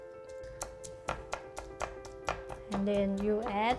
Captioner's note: pestle smashing